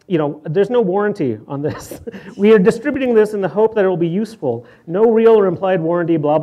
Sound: laughs

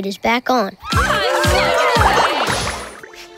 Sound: cheering

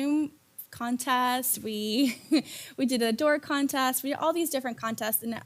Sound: laugh

